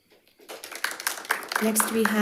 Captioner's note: crowd applauding